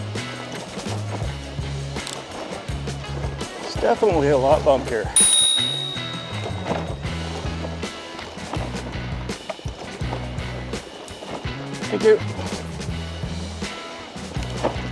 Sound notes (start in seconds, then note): 5.1 bike bell dings